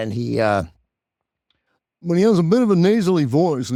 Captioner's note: mimics brother